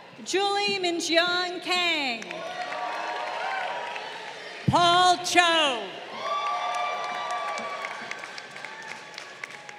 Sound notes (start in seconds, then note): 2.1 crowd cheering